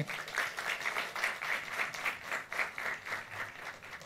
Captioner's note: audience applauds